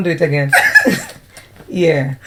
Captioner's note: laughter